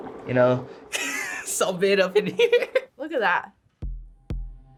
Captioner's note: laughs